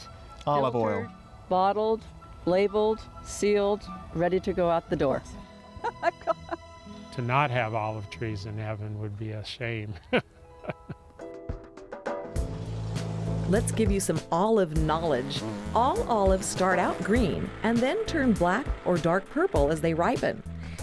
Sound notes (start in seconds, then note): 5.7 laughter